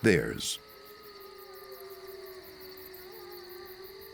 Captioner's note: wolves howling in distance